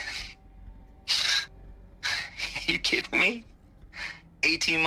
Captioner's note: laugh